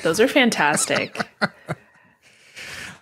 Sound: laughs

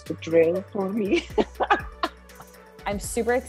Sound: both laughing

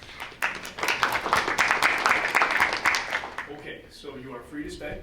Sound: board members clapping

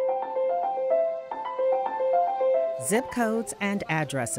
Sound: voiceover

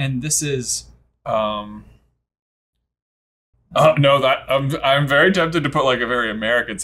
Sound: stammering

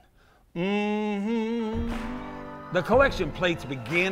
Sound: humming

